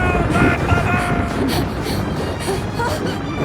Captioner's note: loud rumbling; Tifa panting; gasps